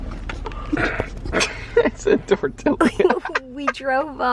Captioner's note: chuckling